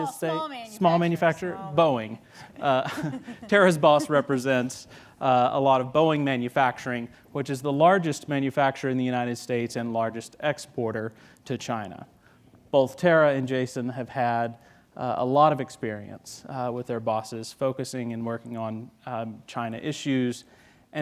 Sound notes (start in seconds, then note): 2.5 laughing